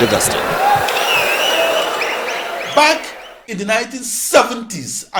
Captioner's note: wild applause and cheering for 22 seconds